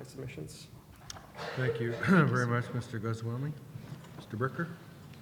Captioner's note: voiceover